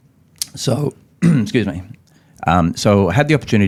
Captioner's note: coughs